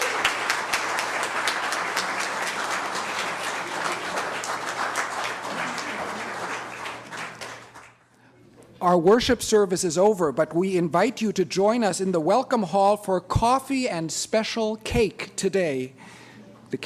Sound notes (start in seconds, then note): 0.0 applause